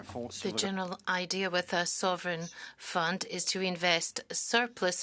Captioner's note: speaking French